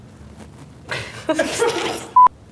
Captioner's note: laughing